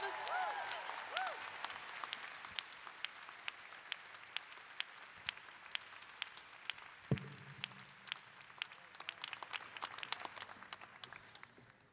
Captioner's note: clapping